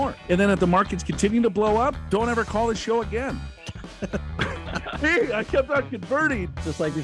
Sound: laughing

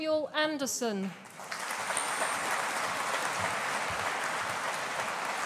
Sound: audience applauding

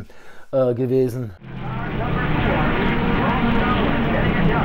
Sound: car sounds

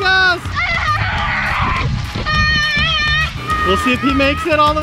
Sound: yelling

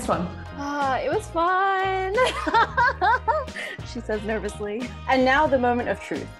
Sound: laughing

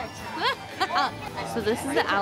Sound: laughing

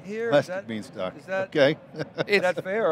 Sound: laughs

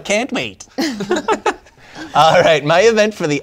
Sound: laughter

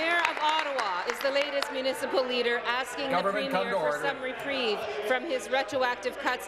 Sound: applause

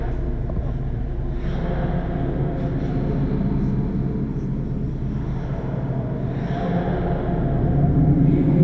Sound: echoing

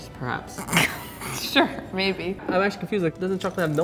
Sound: laughs

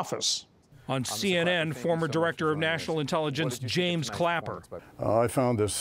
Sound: voice-over

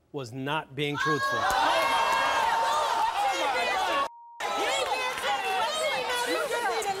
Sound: cheers

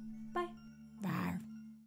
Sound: creature roars

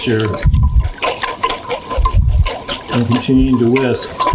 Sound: whisking

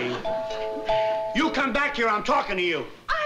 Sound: doorbell rings

